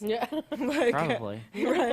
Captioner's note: chuckles